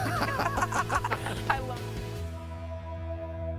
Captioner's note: laughter